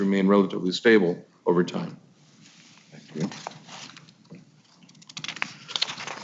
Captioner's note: papers shuffling